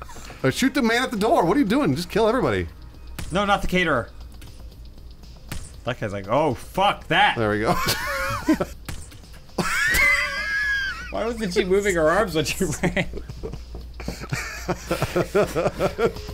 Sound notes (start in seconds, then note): 7.6 laughing; 7.9 wheezing; 10.6 wheezing; 14.0 laughing